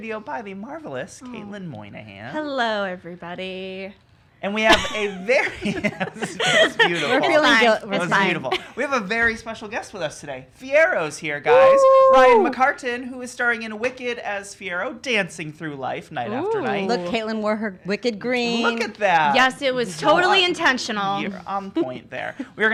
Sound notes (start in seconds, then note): 5.4 laughing